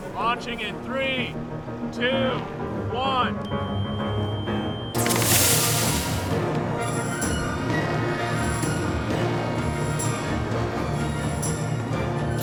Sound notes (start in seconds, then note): 5.0 whooshing; 6.9 drone buzzing